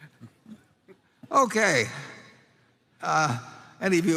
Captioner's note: laughter